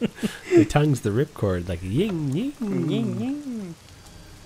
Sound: mimics chainsaw

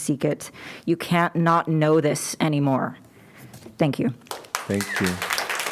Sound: applause

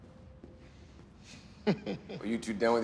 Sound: chuckles

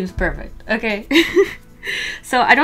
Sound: laughs

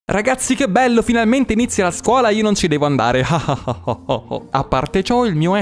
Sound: laughing wickedly

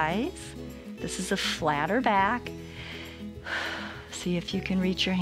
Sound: inhales and exhales

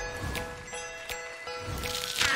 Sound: cracking

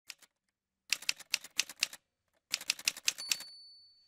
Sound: typewriter sounds

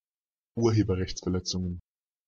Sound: fast Pronunciation

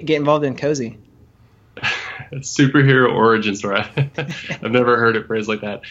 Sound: laughs

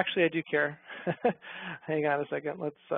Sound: chuckles

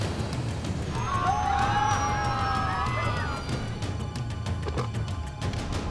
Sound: passengers screaming

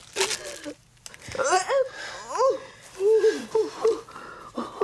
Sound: moaning

